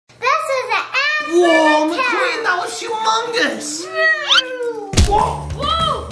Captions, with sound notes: - [Child's Voice] This is an ad for Mattel! - Whoa, McQueen! That was humongous! - Vrooooom! - Whoa, Mater!